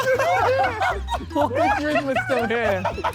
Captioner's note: Sidemen laugh